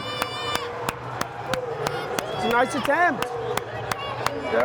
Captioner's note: clapping